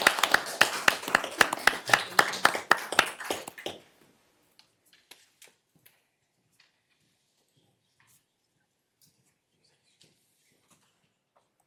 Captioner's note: applause